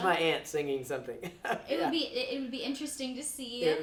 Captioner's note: laughs